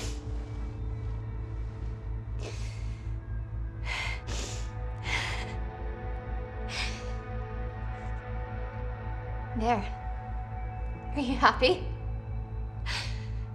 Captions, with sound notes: [shuddered breathing] There. Are you happy?